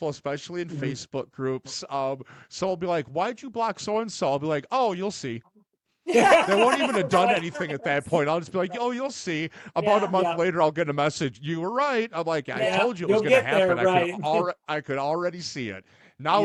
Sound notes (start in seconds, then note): 6.1 laughing